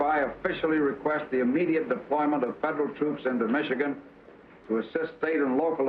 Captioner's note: none